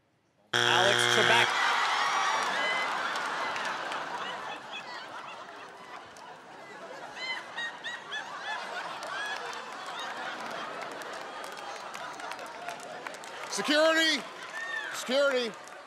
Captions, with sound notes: [ Buzzer ] Alex Trebek. [ Laughter ] Alex Trebek? [ Applause ] Security! Security!